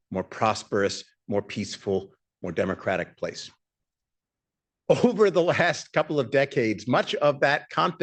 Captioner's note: laughs